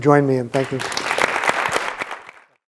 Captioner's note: audience applauds